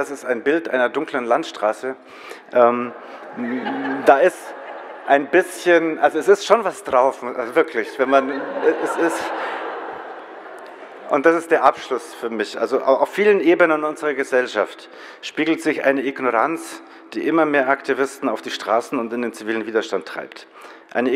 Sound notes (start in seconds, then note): 2.5 general applause; 7.6 audience laughs